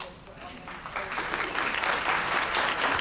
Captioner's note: applause